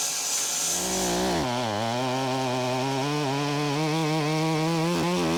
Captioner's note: chainsaw buzzing